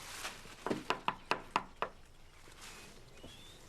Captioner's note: knock on door